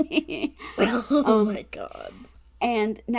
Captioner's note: laughing